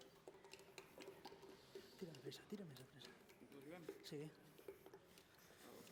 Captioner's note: non-english speech